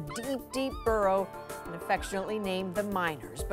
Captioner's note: yelping